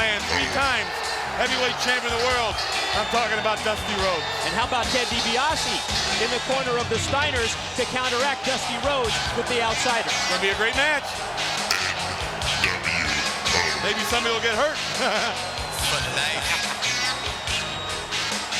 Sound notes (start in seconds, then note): 15.3 laughing